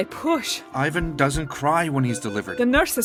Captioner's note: beeping